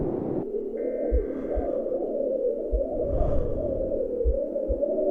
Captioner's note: wind keeps blowing